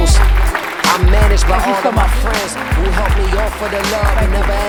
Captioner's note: audience applause